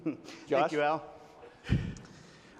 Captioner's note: laughs